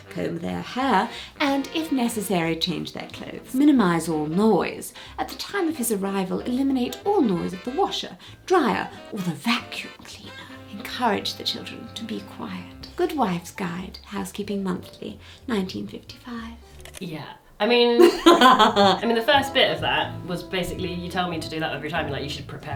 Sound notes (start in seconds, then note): 18.0 laughs